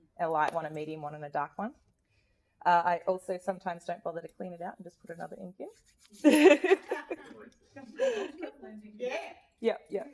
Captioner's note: laughs